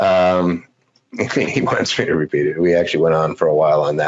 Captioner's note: laughs